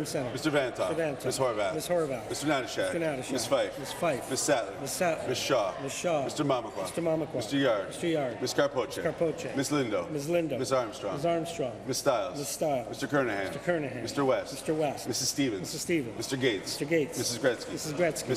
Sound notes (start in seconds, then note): none